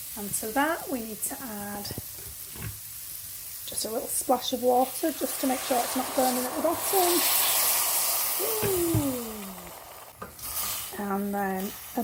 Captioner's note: loud sizzling